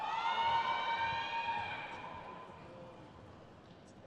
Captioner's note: crowd cheers